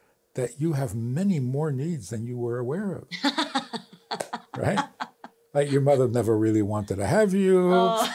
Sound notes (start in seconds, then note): 5.5 laughs